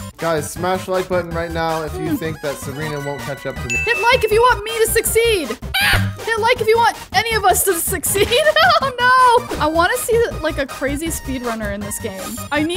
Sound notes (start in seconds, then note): 5.6 DJ yelling; 8.7 laughing